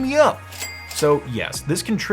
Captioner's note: cash register ringing